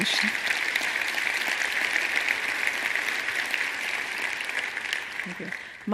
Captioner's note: applause